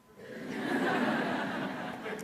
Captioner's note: laughter